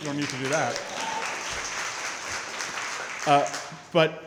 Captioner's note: crowd clapping & cheering